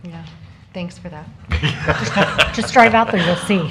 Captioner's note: laughter